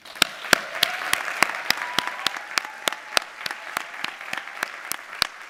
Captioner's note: audience applauding and cheering